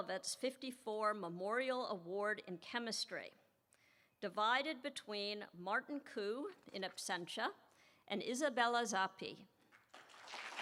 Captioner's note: applause